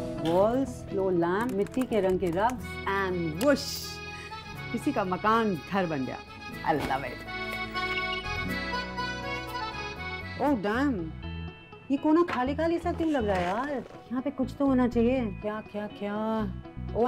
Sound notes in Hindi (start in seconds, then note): none